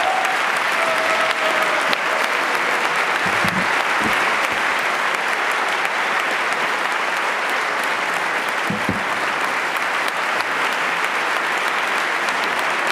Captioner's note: applause